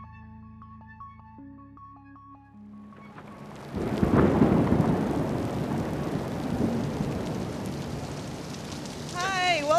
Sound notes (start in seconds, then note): 2.9 thunder and pouring rain